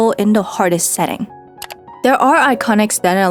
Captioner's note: transition + mouse click